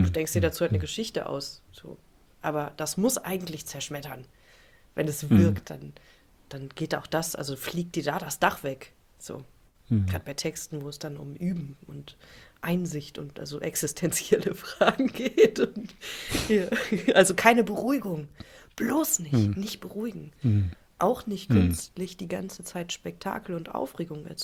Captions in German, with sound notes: Du denkst dir dazu halt eine Geschichte aus. So, aber das muss eigentlich zerschmettern, wenn es wirkt, dann dann geht auch das also fliegt dir da das Dach weg. So gerade bei Texten, wo es dann um Üben und Einsicht und also existenzielle Fragen geht [gelächter] und also keine Beruhigung, bloß nicht, nicht beruhigen, auch [räuspern] nicht künstlich die ganze Zeit Spektakel und Aufregung